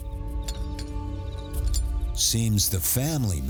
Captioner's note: tools clanking